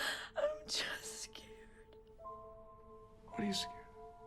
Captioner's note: sobs